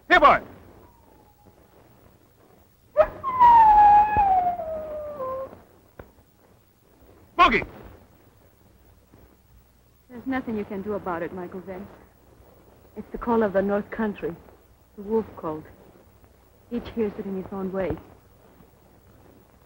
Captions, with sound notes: Here, boy! [howling] Smokey! There's nothing you can do about it, Michael Vance. It's the call of the north country, the wolf call. Each hears it in his own way.